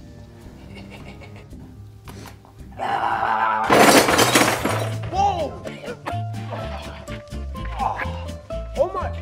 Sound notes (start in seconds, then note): 0.5 chuckling; 6.5 curious music